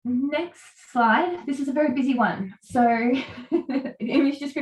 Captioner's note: laughs